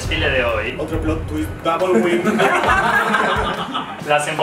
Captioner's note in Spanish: risas